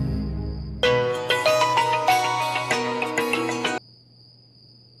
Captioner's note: Phone ringing